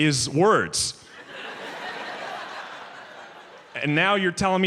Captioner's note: audience laughs